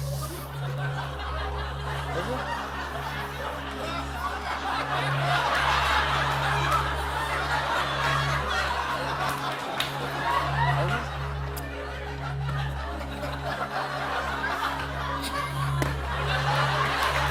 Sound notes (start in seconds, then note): 0.1 laughter; 4.5 laughter continues; 13.2 laughter